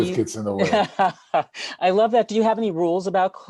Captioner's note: laughs